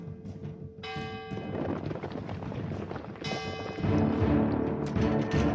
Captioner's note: rumbling